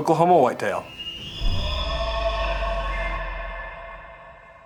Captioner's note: elk bugles